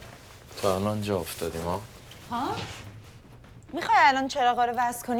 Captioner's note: speaking foreign language